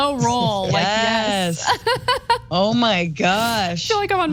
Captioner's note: laugh